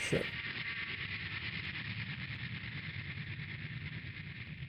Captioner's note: plane engine roars